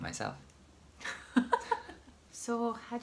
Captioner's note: laughs